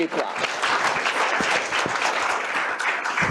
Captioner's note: applause